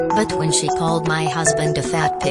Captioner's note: none